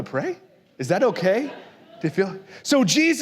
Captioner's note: la congregación se ríe